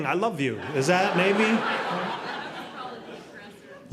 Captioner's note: audience laughing